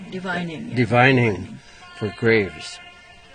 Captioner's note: voiceover